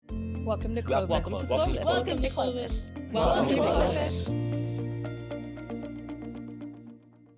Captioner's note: in Unison